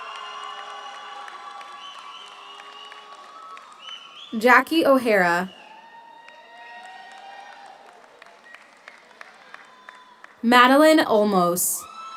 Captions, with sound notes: (audience cheers) (audience applauds) Jackie O'Hara. (audience cheers) (audience applauds) Madelyn Olmos.